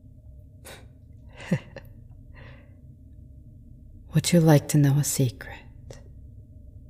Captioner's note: chuckle